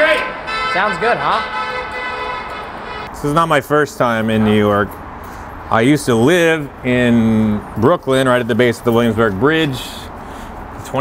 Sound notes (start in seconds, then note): 0.0 car honks